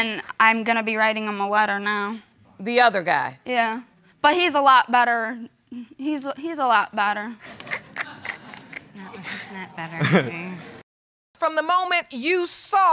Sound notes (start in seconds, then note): 7.5 snickers; 7.6 scattered laughter